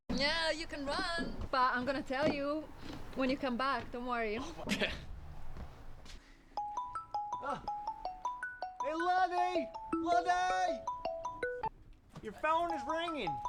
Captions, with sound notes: Yeah, you can run. But I'm going to tell you when you come back, don't worry. [laughs] [phone rings] Hey, Luddee! Luddee! Your phone is ringing.